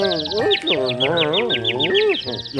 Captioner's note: birds chirping; confused grumbles